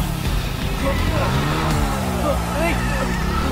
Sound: tires screeching

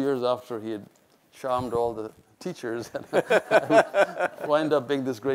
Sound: laughs

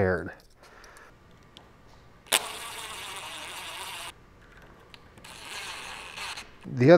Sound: impact driver whir

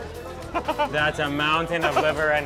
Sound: chuckles; laughs

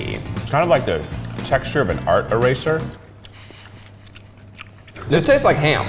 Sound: chewing

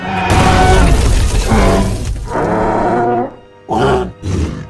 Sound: crash Sounds; triceratops Sounds

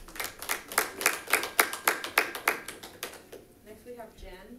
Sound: audience applauding

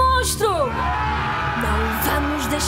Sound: crowd cheering

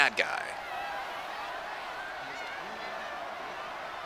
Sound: crowd cheering

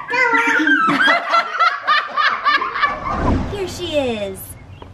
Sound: everyone laughs

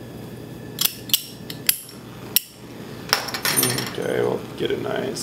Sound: lighter clicking

